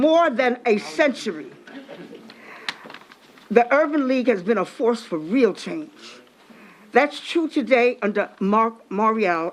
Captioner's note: applause